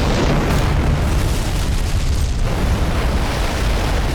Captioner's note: explosion